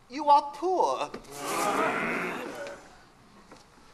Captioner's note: ghosts grumble